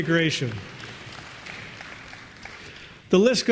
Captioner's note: applause